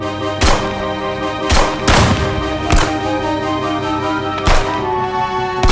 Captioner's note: exciting music; guns banging